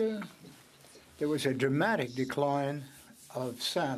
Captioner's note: speaking French